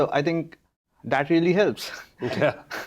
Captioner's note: chuckles